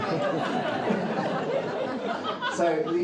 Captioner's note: audience laughs